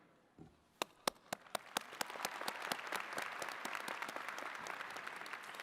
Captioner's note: attendees clapping